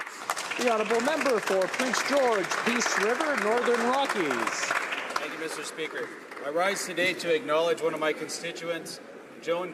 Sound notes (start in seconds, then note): 3.4 some Applause